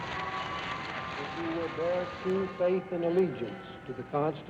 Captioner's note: voiceover